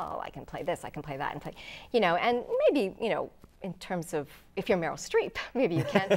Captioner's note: laughing